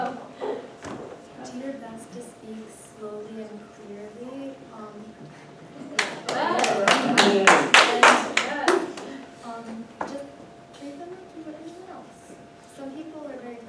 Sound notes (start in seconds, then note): 5.9 clapping